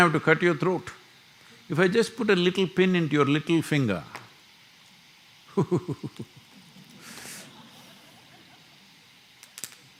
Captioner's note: laughter